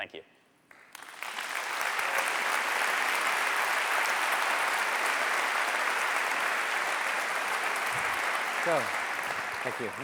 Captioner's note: applause